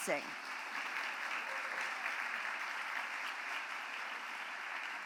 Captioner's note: applause